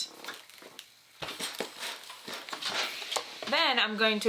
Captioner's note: steam sizzles